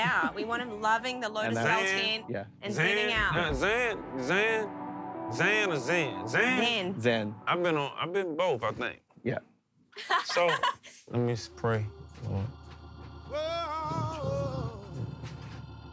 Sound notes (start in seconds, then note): 10.0 laughs; 11.6 whispering